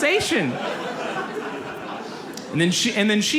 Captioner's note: audience laughs